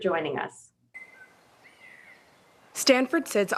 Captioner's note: birds chirping